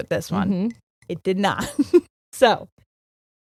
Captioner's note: laughing